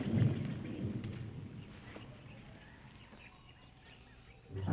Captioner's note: birds chirping